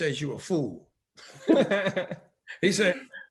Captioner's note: laughing